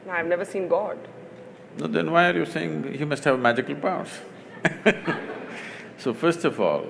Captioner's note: laughter; 笑聲